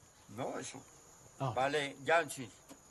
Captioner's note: man speaks local language